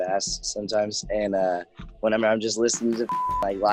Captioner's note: beep